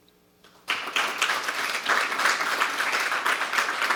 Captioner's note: applause